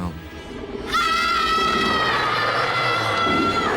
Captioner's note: all screaming